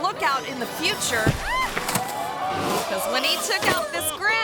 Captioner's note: person thuds and screams